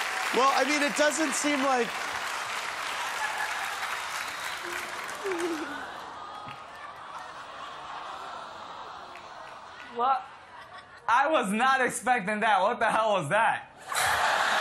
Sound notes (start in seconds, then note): 4.7 awes from audience